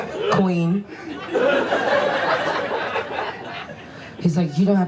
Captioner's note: audience laughs